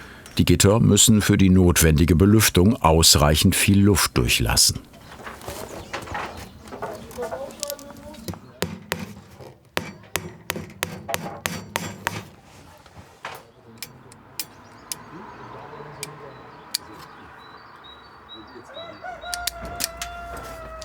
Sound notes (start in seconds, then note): 14.4 distant street noise; 19.2 cocks crowing